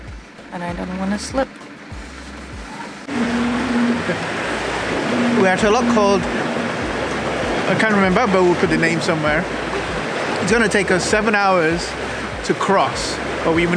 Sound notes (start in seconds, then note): 2.8 loud whirring